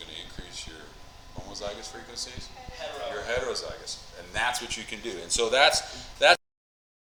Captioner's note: mic cuts out